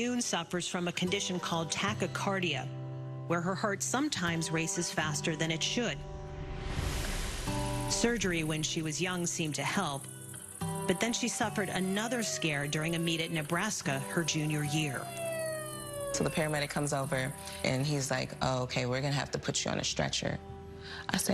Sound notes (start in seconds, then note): none